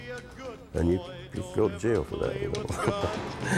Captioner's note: laughs